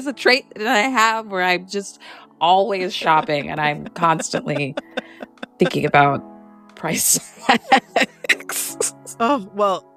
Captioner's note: laughter